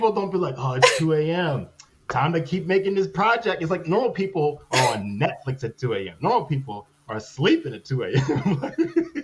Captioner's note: laughter